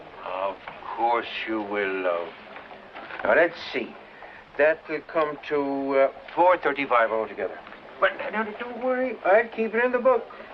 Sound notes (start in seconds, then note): none